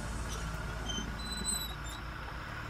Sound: car pulling up

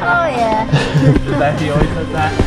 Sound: laughing

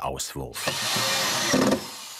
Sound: screwing noises

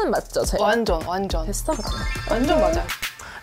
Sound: satisfied sound effect

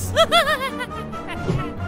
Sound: laughing

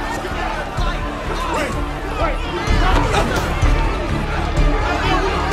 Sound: crowd shouting

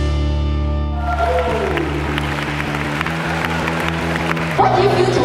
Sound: applause

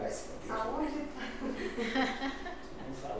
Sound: laughs

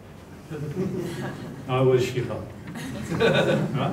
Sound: laughter

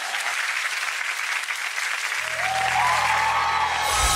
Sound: clapping

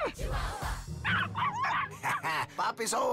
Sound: dogs yap excitedly

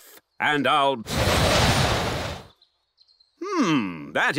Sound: blows

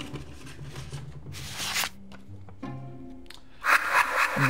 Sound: paper rustling; paper whooshing; paper rustling; paper whooshing; ghosts laughing

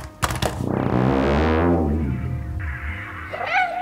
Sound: controller clatters; companion moans; cat meows

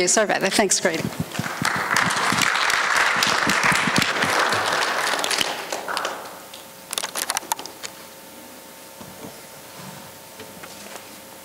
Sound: applause

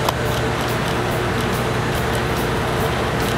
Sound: printer sounds

